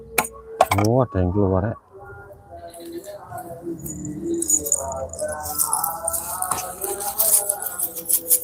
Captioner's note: glass bottle being hit